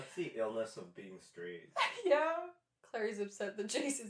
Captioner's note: laughter